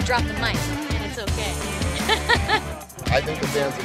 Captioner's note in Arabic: يضحك